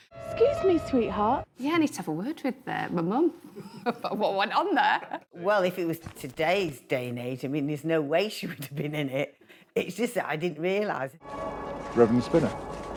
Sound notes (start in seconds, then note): 3.5 laughing